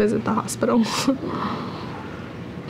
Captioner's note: laugh